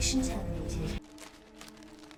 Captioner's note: plastic rustling